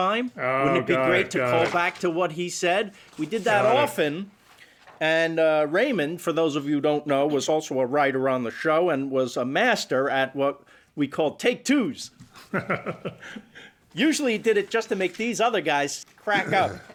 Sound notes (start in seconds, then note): 12.3 laughs